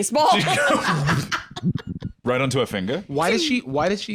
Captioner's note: laughs